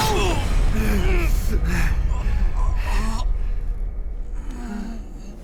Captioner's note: both grumbling and gasping